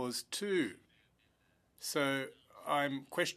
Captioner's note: speaking French